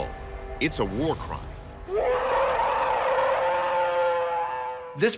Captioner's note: alleged bigfoot roaring